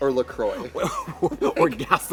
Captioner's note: Katya laughs